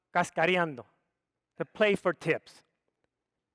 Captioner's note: speaks foreign language